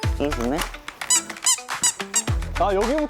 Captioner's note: tiptoeing